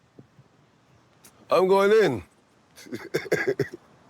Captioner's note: laughs